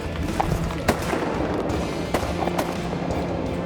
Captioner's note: gun shots